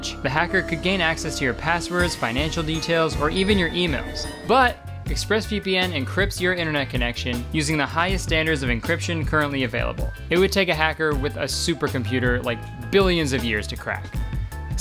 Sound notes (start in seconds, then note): none